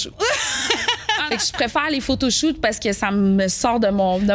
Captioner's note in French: rires